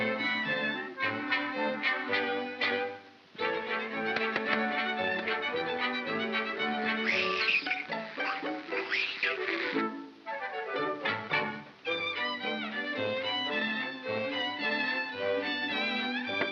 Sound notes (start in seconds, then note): 3.4 whimsical music; 6.5 hissing sound; 7.0 whimsical music